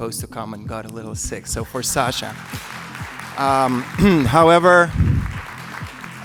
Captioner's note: applause